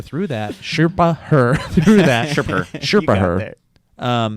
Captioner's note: chuckles